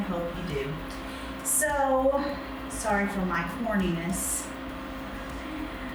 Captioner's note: chuckles